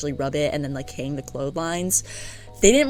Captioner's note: big breath